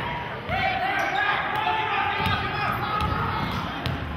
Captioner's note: yelling